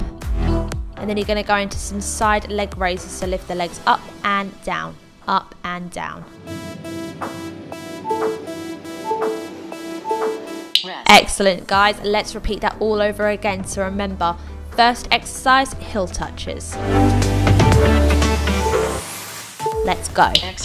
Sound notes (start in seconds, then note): 7.1 machine beeping; 9.7 upbeat music; 20.3 machine beeping